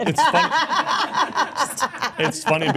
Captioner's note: speaker laughs